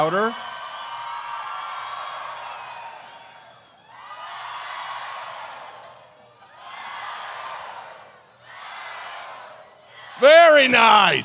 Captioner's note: cheers